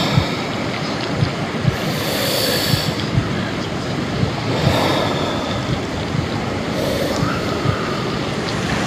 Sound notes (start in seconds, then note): 0.9 slow breathing; 1.0 heart beating slowly